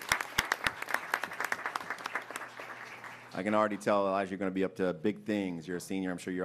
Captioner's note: applause